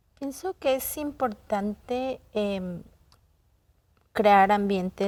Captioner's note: speaking in Spanish